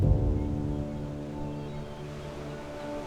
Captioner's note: inspiring music; gulls squawking; waves crashing